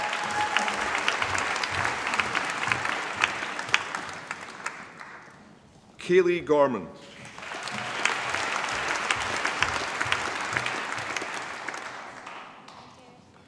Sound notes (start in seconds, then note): 0.0 applause; 7.2 applause